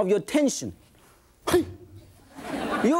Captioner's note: grunting; thudding; audience laughing